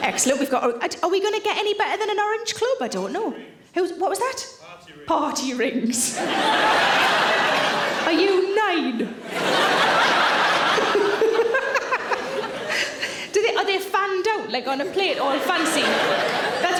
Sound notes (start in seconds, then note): 6.1 audience laughing; 10.7 Sarah laughing